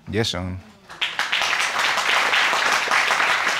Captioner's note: audience applauding